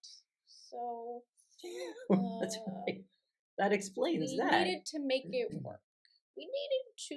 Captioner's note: laughter